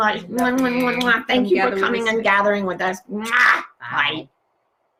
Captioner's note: lips smacking; lips smack